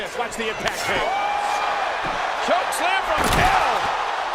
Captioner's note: crowd cheering